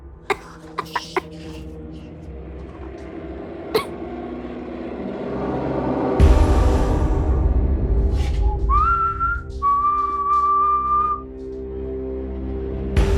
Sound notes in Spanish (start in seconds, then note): 8.7 Silbidos